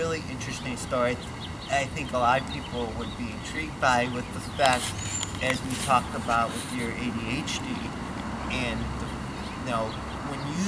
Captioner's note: foot steps shuffling